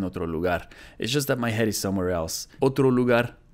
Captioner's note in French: lit la traduction en anglais